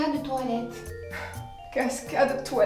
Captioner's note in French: soupire